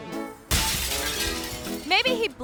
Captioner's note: glass shatters